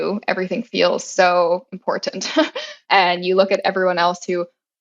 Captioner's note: laugh